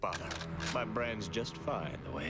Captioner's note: weapon clicks